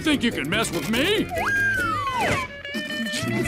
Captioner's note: whistle